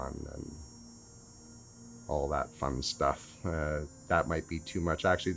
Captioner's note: cicada Sounds